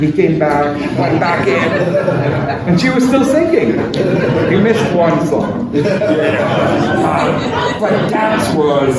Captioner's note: laughter